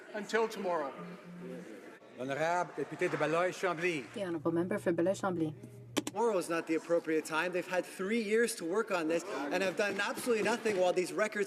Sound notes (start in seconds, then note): 6.6 speaking French